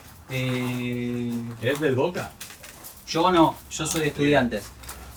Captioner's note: in spanish